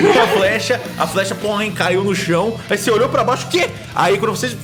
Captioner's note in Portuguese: poing